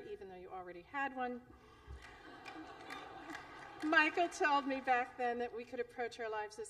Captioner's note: laughter